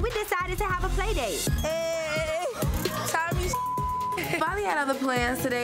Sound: beep

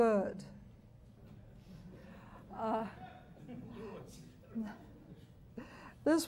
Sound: audience chuckles and murmurs

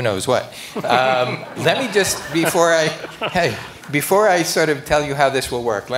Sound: laughter

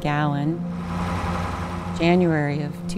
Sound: truck engine roaring

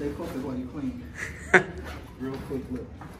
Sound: laughing

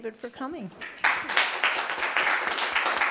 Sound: applause

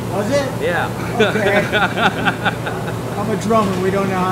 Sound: laughing

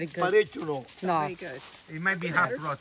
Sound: truffle hunter 2 speaks Italian

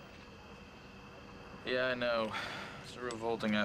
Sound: sighs

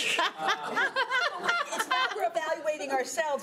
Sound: laughing

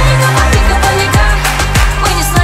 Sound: clap clap

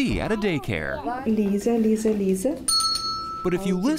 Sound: speaking in foreign language

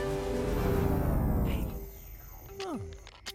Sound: electricity powering down; scratching

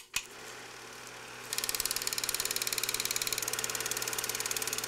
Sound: film tape advancing

